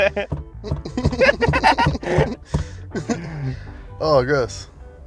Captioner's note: laughing ewws; more laughing